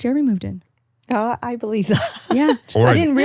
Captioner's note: laughing